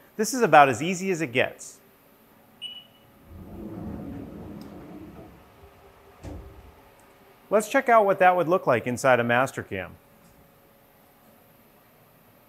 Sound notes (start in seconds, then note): 2.7 machine beeps; 3.0 door slides